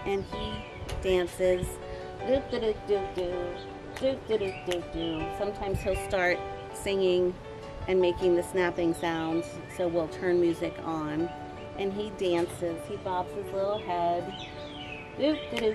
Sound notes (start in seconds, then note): 3.9 snaps